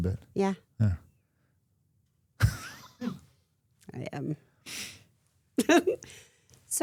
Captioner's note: chuckles